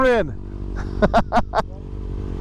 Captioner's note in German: lacht